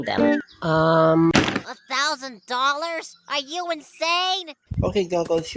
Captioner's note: door crash sound even though there's no door